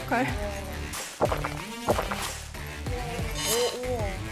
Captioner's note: gulp